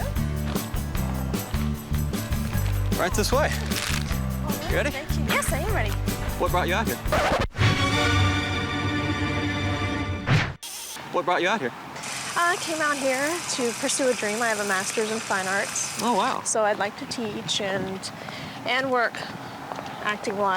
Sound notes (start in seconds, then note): 0.1 upbeat music; 7.0 record scratching; 7.0 dramatic music